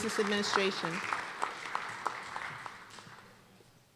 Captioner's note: applause